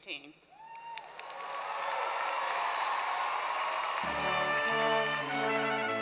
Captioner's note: applause